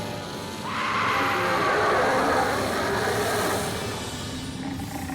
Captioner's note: screaming turns to growling